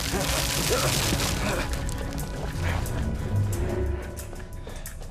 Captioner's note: Christos groaning; dramatic suspenseful music